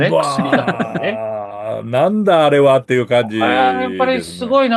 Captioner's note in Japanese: 笑い